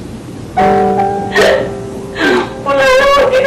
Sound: sobs

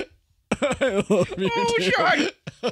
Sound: crying

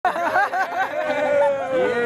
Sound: laughing

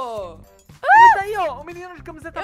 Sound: screaming; fright

